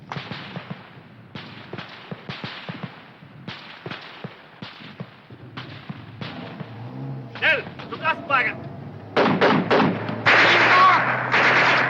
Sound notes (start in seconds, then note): 7.8 shouting foreign language; 9.1 guns firing